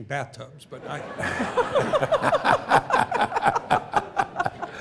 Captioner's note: laughter